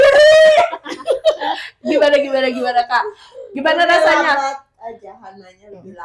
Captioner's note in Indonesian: berteriak; tertawa